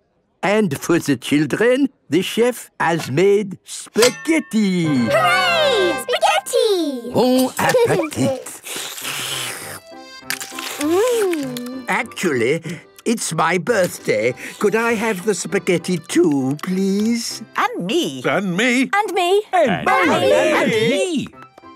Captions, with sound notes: And for the children, the chef has made spaghetti. - Hooray! Spaghetti! - Bon appetite! - (slurping) Mmmm! - Actually, it's my birthday. Could I have the spaghetti too, please? - (calling out in turn) And me! And me! And me...!